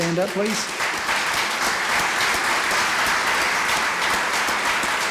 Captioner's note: applause